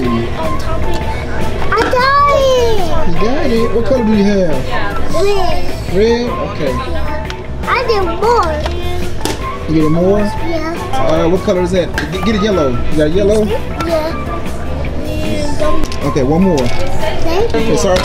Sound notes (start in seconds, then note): 15.0 murmurs